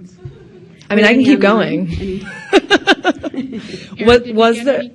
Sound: laughs

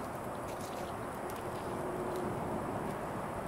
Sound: crackling of fire

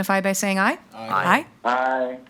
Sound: in Unison; bell

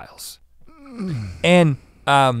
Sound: groans

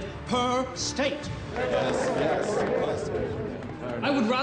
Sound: voices murmuring

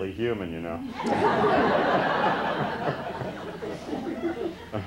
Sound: laughter

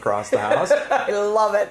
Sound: laughing

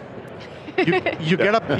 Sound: laughs

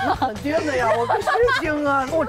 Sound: laughing

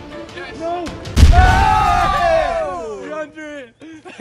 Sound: cheers

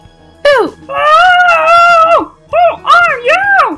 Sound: screams

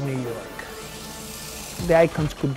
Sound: peanuts rattle

